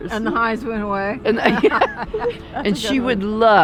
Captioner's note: laughs